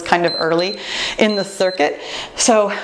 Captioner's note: timer beeps